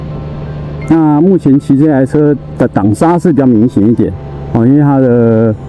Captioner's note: engine braking